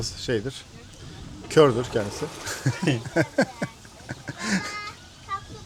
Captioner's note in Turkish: kahkaha